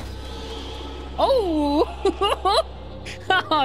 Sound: laughter

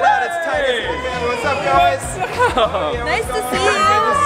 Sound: laughing

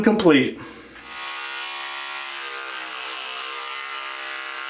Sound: clippers buzzing

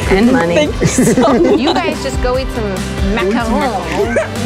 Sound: in French accent; laughs

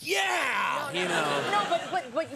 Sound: audience laughs

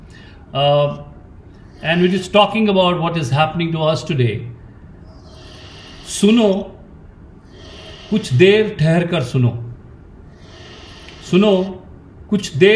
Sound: speaks in Hindi – not transcribed

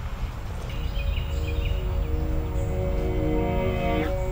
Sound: birds chirping

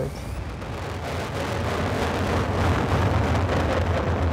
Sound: distorted explosion sound plays

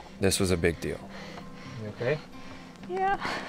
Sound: breathing heaving

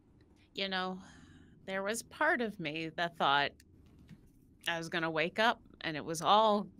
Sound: none

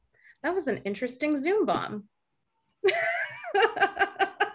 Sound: laughs

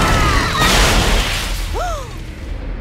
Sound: gasps

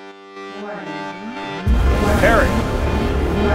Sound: computer repeats

